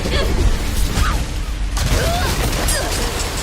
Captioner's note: shrieks in pain